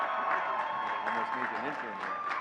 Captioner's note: audience cheering and clapping